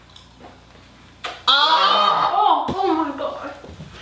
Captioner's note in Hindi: चबाने; गैगिंग